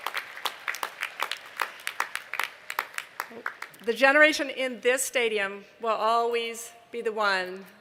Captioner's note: applause